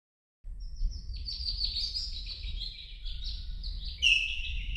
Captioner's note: birds chirping